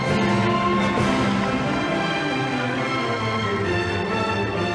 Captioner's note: audience applauding